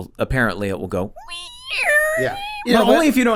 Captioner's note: squeaking